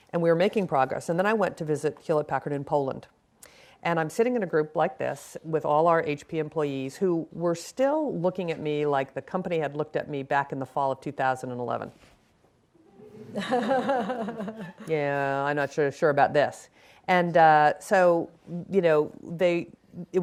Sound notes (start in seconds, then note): 12.8 audience chuckles